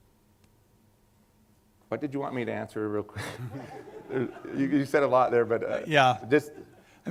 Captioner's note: laughter